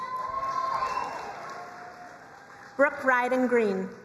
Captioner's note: crowd cheering and applauding